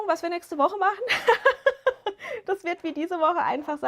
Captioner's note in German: gelächter